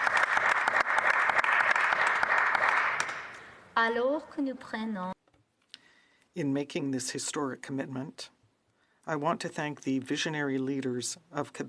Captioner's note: some Applause